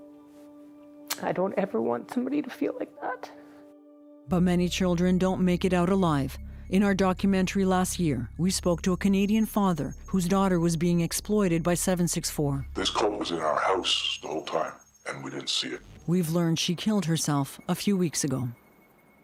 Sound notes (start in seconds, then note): 3.4 voice breaking; 12.9 man, distorted voice